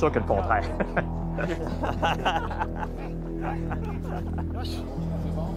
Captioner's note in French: rires